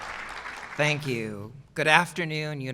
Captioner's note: applause